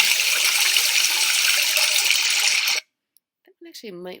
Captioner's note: water pouring